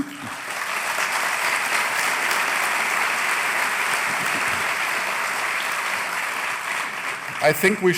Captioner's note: applause